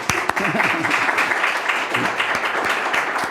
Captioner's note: applause